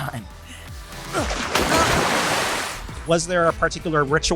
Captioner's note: splash